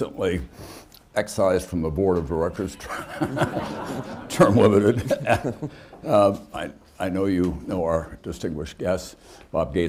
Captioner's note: laughter